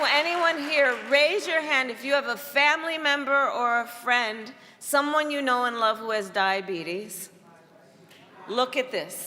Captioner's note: applause